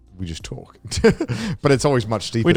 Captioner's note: laughs